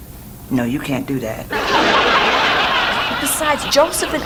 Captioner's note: audience laughs